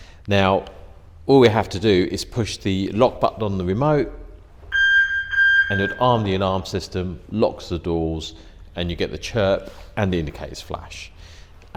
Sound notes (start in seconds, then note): 4.6 beep beep